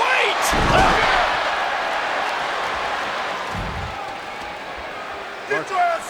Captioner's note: crowd roars; body thuds